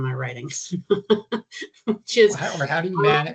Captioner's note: chuckling